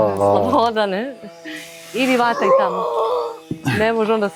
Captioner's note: groaning